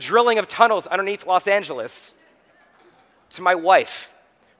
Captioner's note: audience chuckling